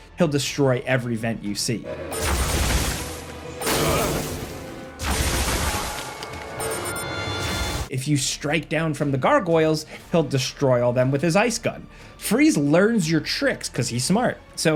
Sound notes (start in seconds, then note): 2.1 guns firing; 3.7 Batman grunts